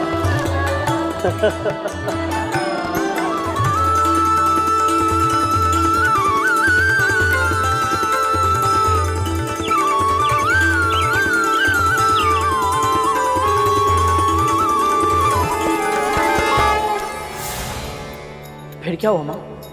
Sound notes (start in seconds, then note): 1.2 laughs